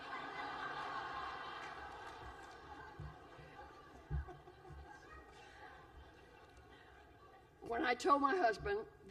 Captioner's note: laughter